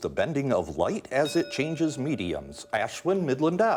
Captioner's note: bell dinging